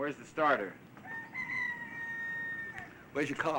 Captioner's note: rooster crowing